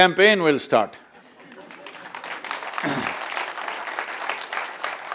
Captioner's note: applause